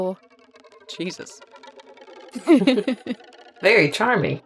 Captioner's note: chuckles